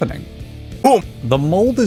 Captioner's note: boo